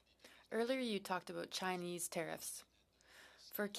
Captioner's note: speaking French